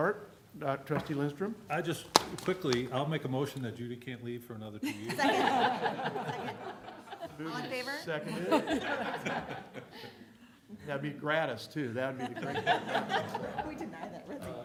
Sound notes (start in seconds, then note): 4.8 laughter